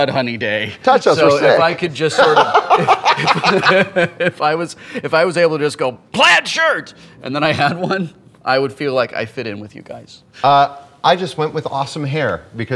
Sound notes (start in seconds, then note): 2.1 laughter